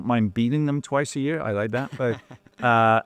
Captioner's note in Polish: śmiech